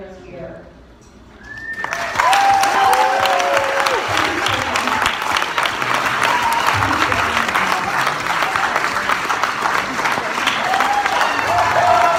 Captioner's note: applause